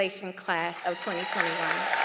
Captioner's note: applause